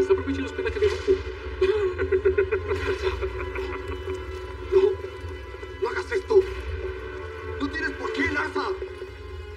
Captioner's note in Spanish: Ríe